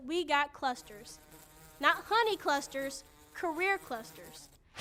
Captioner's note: bee buzzing